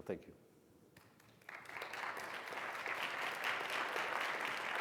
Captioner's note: audience applauds